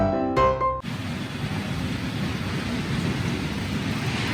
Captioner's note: blowing wind